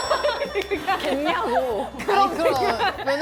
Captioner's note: in disbelief